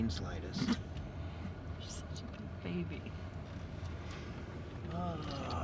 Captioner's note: laughs